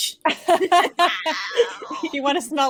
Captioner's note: all laughing